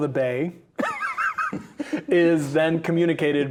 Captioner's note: laughing